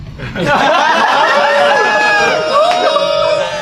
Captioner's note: everyone laughs